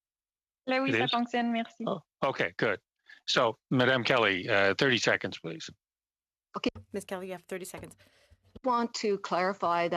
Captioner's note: speaking French